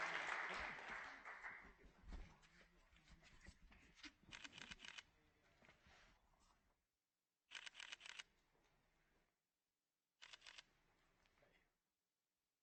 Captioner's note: applause